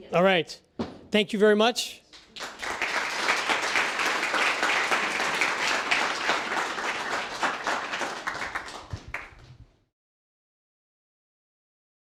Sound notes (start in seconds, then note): 2.1 applause